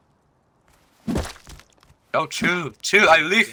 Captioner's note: skonk